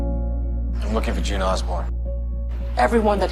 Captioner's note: voiceover